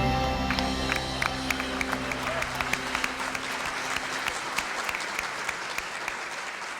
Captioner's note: congregation applauding